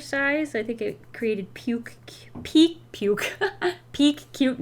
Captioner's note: laughs